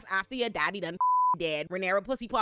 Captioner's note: beep